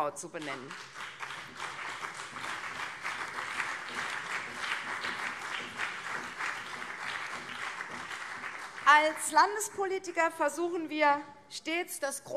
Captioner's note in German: Beifall CDU und vereinzelt SPD